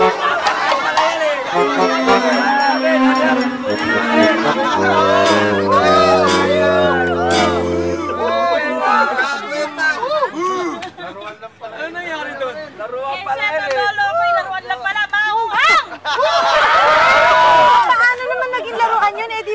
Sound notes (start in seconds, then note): 2.0 indistinct chattering; 7.8 all booing; 15.6 laughter